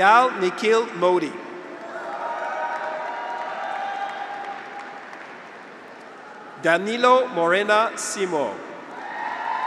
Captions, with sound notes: Payal Nikhil Modi. (graduates cheer) (audience applauds) Danilo Moreira Simoes.